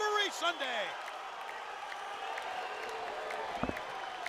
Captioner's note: crowd chatter